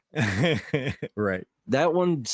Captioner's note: laughing